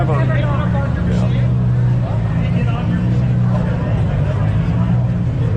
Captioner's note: crowd chattering